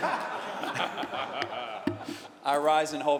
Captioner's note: laughter